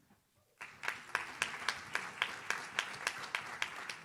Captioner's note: audience claps